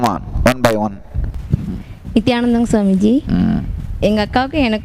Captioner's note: she speaks in her language